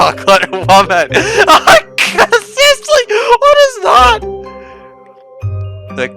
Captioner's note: laughing